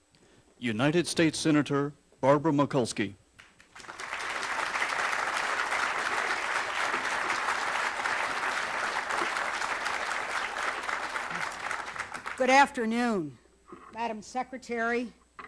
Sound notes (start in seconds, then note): 6.7 applause